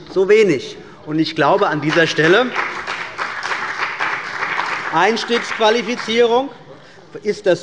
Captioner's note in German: Beifall bei der CDU und dem BÜNDNIS 90/DIE GRÜNEN